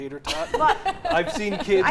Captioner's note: laughs